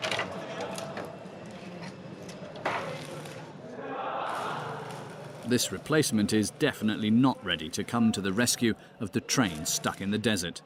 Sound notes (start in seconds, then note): 0.7 indistinct chatters